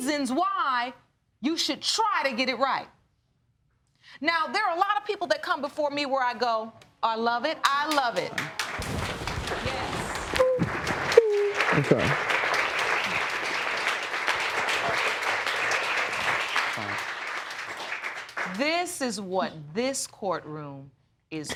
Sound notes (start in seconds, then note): 9.4 sobbing